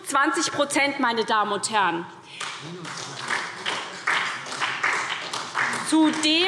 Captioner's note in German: Beifall SPD